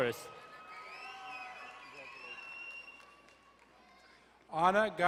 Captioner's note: crowd cheering and applauding